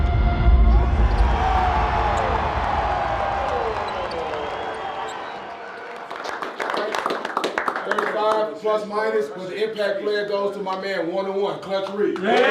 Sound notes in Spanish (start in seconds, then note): 0.8 aplausos del público; 6.7 equipo aplaudiendo